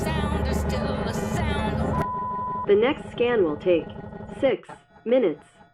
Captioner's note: loud beep